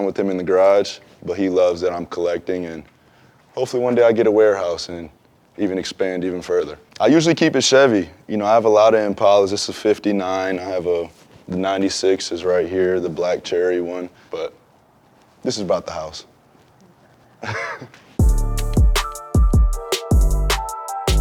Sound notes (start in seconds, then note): 17.3 Devin chuckles; 18.2 upbeat music